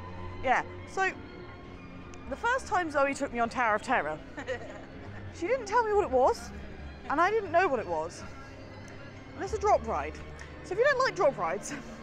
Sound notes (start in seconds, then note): 4.2 laughs